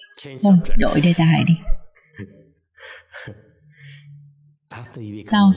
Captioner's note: laughter